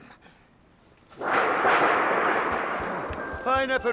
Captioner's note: metal clanging